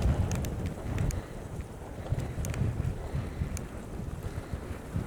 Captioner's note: wind noise. it was quite blowy up there